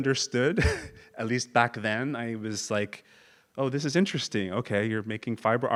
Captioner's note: laugh